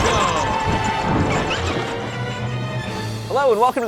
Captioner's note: bats squeaking